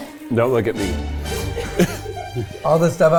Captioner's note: all chuckle